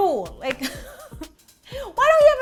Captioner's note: laughs